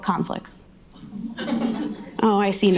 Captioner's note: audience laughing